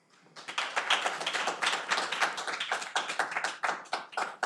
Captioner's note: audience applauding